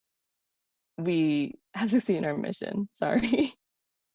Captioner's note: giggles